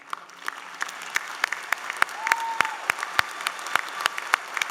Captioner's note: applause